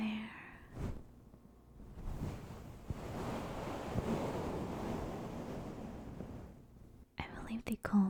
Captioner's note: fabric, rustling sounds